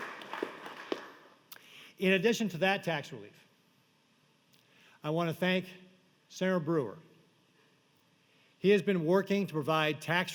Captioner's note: applause